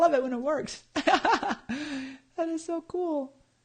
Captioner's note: laughs